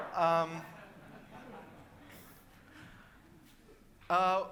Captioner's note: audience laughing